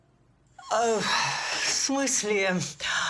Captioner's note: sighs